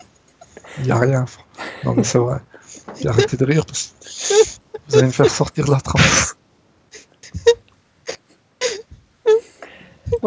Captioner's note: laughs